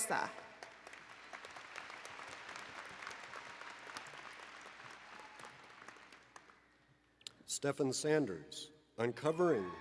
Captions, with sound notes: [ Applause and Cheering ] >> Stephan Sanders,-